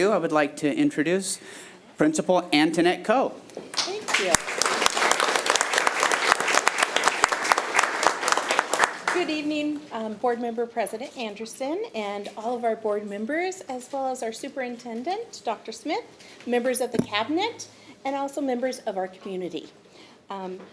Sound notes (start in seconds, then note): 6.4 attendees applauding